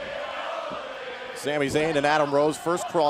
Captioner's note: fans chanting